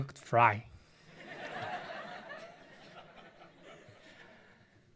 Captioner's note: audience laughs